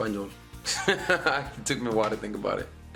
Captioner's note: laughing